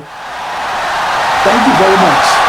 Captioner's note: wild applause and cheering for 17 seconds